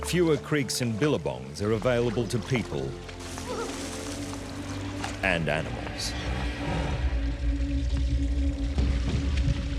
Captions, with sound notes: Fewer creeks and billabongs are available to people... [water splashes] ...and animals. [lion growls]